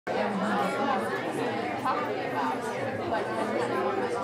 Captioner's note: crowd chattering